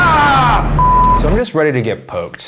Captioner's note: yelling; beeping